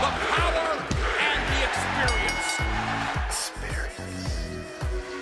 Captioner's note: bell ringing